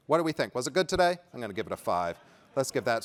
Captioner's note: laughter